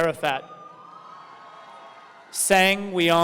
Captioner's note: audience cheering